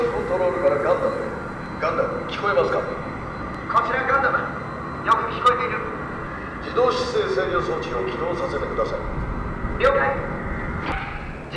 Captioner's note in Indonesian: Pengumuman dalam bahasa Jepang